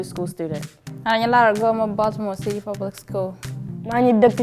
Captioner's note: speaks in foreign language